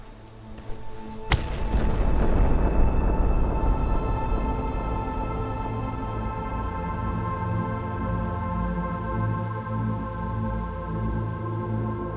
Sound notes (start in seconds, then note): 1.2 blow landing; 1.2 thunder crashing; 8.3 foreboding music continues